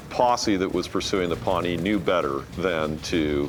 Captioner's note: none